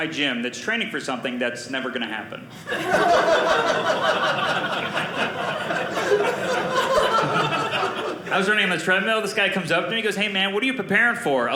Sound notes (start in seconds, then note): 2.6 audience laughing